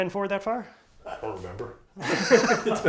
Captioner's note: laughter